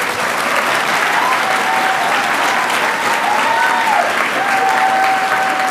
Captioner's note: audience cheering and applauding